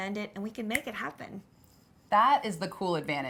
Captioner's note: snapping